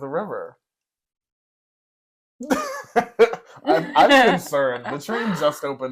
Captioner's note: laugh